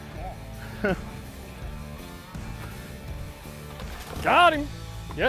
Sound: chuckles

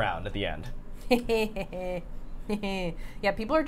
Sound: Safiya laughing

